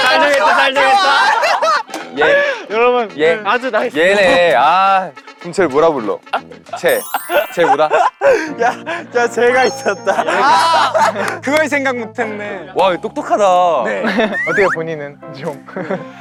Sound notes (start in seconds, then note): 13.6 impressed